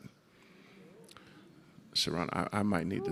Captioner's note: audience moaning